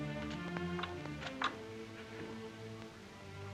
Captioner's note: door closes softly; soft music